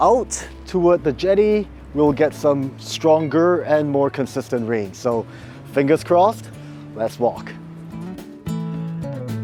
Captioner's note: winds